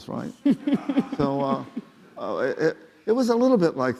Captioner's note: laughing